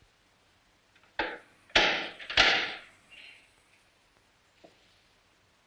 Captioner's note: door latch clicks